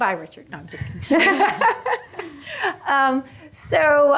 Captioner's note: laughs